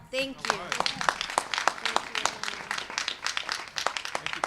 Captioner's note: applause